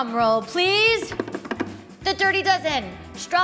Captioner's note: hands drumming